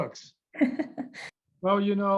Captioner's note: chuckles